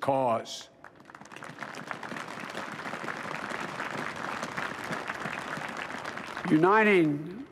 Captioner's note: applause